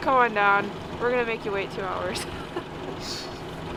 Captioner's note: laughs